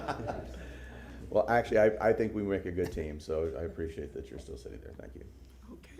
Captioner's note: laughter